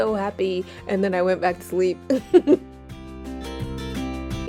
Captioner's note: giggles